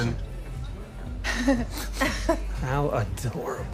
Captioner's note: both laugh